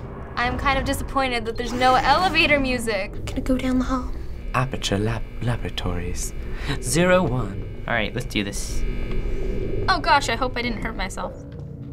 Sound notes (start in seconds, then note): 0.0 door whirs; 4.5 British accent; 8.8 in game: faint humming